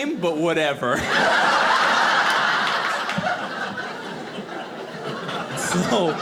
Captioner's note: audience laughing